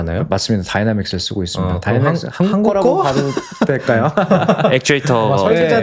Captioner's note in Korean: 웃음